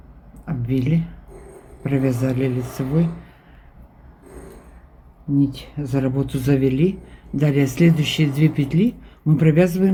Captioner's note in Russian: фыркает